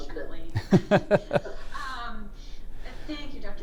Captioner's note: laughing